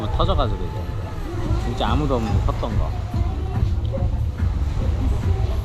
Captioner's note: motorcycles